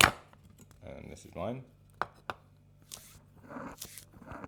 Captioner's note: scraping